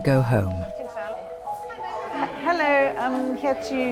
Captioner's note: crowd chatter indistinctly